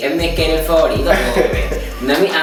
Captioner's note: haha